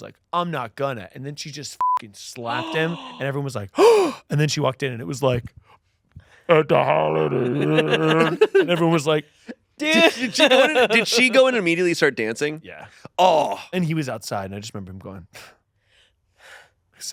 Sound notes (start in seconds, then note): 1.8 beep; 3.7 gasps; 9.9 laughing